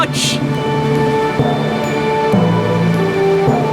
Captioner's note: laughing